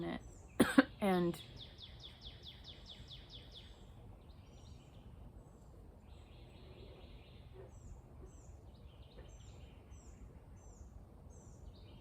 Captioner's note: coughs